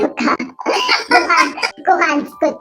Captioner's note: laughs